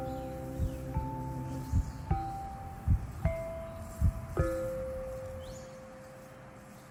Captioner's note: soothing music continues; heartbeat thumping